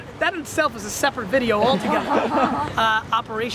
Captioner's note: all laugh